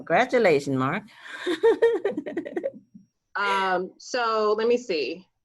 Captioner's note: chuckles